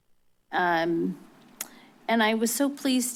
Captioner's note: clicks tongue